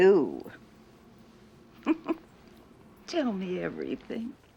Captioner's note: chuckles